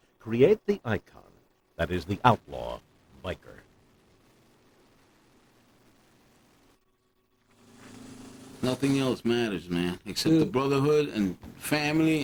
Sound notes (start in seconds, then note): none